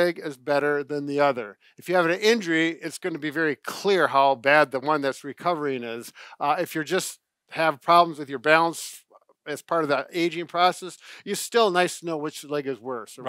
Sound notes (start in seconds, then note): none